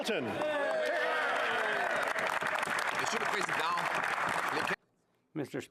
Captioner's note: some Applause